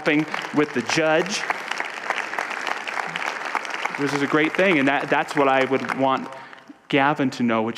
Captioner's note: audience applause